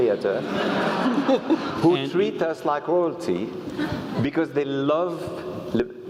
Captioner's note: laugh